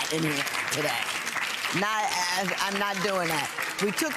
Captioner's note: audience applauding